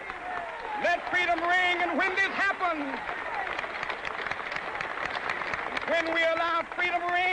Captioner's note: crowd cheers